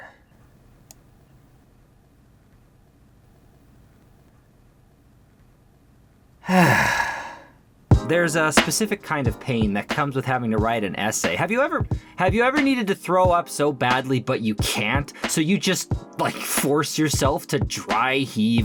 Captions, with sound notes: *le sigh* There's a specific kind of pain that comes with having to write an essay. Have you ever--- Have you ever needed to throw up so badly but you can't. So you just, like, force yourself to dry heave.